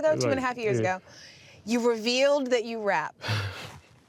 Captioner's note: laughing